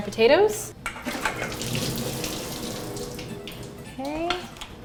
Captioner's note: water pours